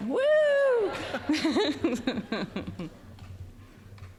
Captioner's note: audience laughing